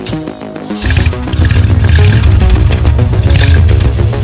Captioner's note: engine rev